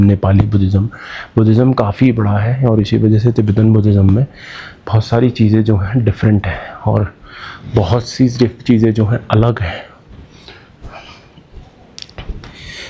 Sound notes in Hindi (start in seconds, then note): 7.2 गहरी सांस लेने की आवाज़